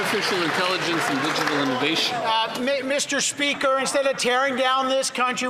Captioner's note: some Applause